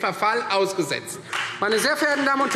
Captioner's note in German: Beifall Freie Demokraten